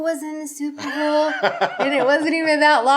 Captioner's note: laughing